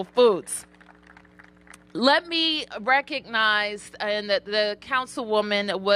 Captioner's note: applause